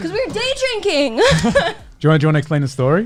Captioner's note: laughs